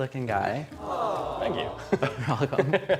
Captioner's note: audience awh